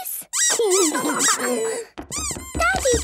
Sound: squeaking

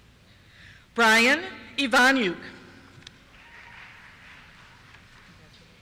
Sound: cheers

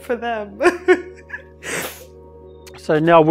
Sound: laughs

